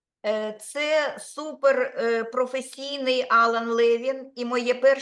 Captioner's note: speaking Ukrainian